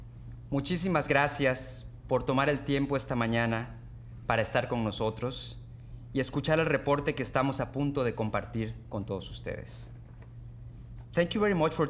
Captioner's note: speaking Spanish